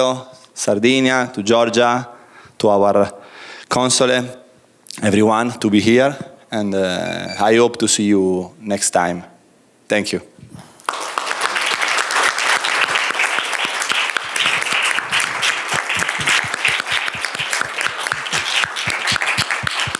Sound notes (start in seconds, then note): 10.8 applause